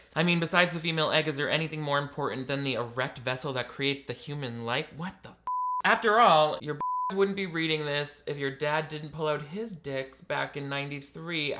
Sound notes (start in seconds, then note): 5.4 beep